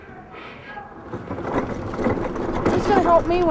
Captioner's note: trolley rumbles across ground